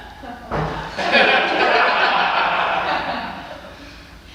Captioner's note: laughs; cheers and laughter